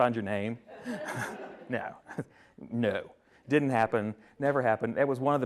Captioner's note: attendees laughing